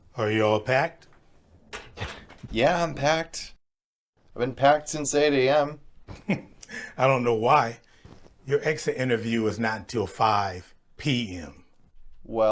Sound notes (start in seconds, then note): 6.0 chuckles